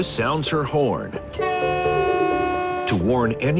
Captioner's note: train horn blares